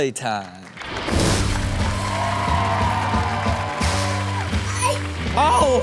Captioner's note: rock music; crowd cheers